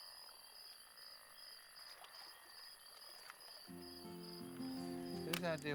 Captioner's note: water splashing